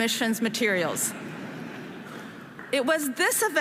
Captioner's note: audience laughing